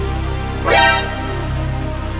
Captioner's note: exclaiming